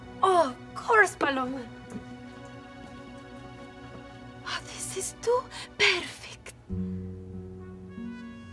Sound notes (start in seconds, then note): 1.9 music intensifies; 4.3 whispers; 6.7 evil music